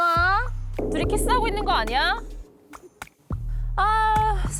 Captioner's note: sound effect: hopeless intuition